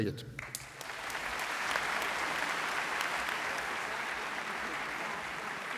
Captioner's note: applause